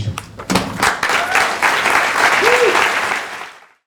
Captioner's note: applause